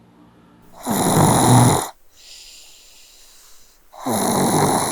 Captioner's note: person snoring